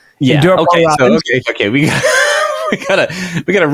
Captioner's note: laughing